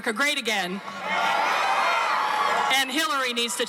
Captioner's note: crowd cheering